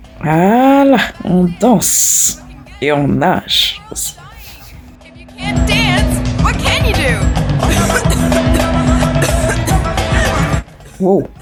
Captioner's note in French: Rires